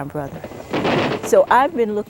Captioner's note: gunshot